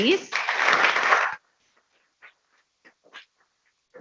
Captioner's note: people clapping